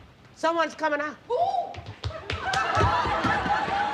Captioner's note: Mary exclaiming